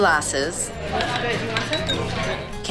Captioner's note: sound of ice clinking in glass